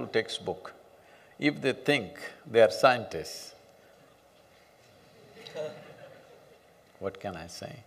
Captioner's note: few laugh